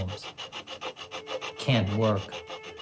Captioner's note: sawing